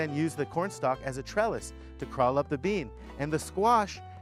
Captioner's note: none